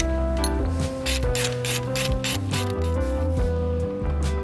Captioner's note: tool squeaking